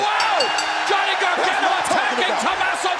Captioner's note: bell ringing